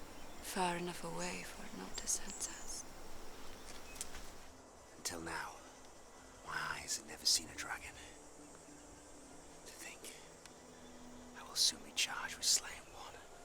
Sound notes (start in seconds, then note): none